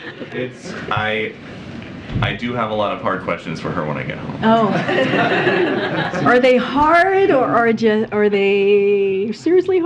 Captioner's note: laughter